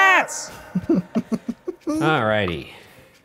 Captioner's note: laughing